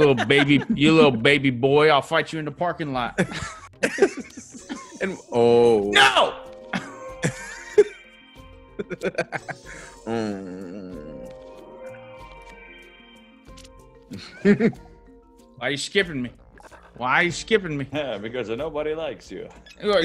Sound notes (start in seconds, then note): 6.4 laugh